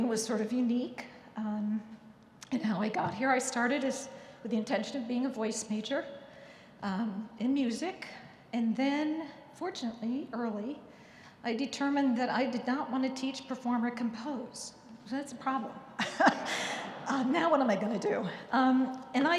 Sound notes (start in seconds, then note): 16.0 chuckling; 16.1 audience laughing